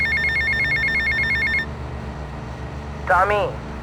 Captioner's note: beeping